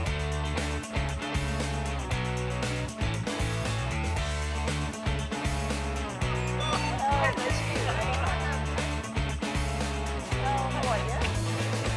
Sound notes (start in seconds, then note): 6.2 fans talking; 6.4 scanner beeping; 9.3 upbeat music